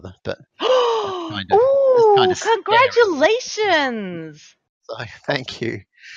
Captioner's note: gasps